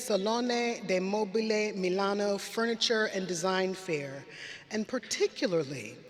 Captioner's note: none